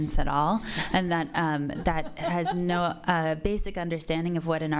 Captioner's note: audience laughs